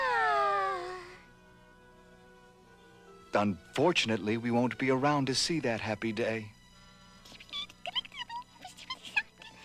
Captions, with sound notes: [SIGHING] UNFORTUNATELY, WE WON'T BE AROUND TO SEE THAT HAPPY DAY. [CHATTERING]